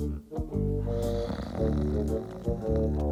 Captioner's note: snoring